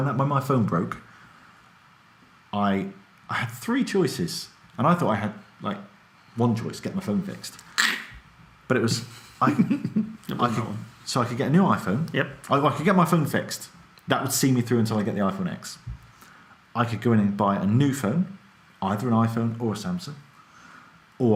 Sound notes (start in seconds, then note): 7.6 imitates knife cutting throat; 9.1 laughs